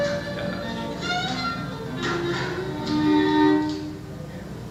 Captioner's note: chuckles